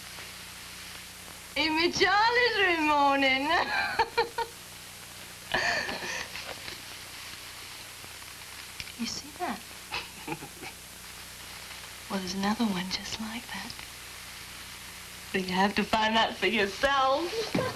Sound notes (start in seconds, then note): 3.6 she laughs; 8.7 seductively